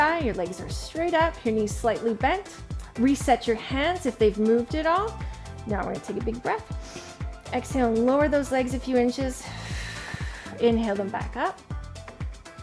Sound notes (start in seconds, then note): 6.8 inhales deeply; 9.6 exhales sharply